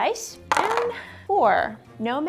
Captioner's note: dice clunking